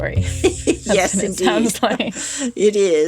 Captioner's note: laughter